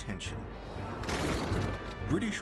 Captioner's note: gunfire